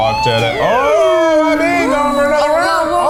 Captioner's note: electric slider whirring